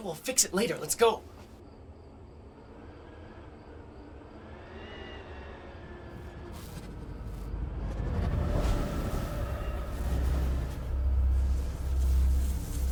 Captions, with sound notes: - We'll fix it later, let's go. (wind whistling) (electricity buzzing)